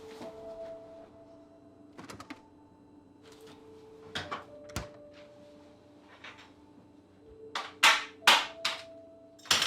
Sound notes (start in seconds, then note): 2.2 door opening; 4.4 door closing